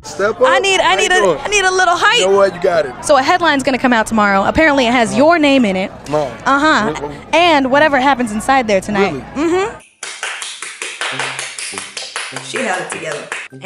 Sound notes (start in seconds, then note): 10.0 claps